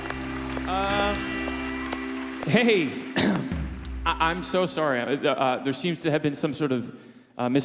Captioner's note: cheers and Applause